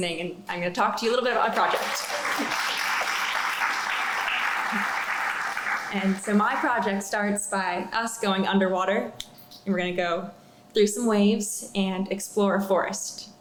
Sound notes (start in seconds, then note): 4.4 applause